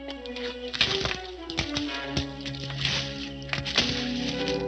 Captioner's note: branches snapping